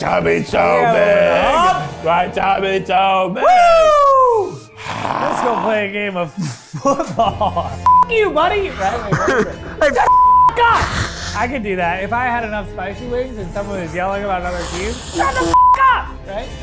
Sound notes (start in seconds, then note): 4.6 exhaling heavily; 10.1 beep